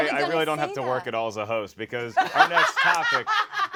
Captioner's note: laughs boisterously